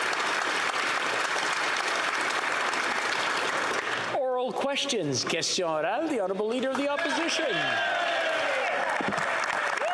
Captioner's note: applause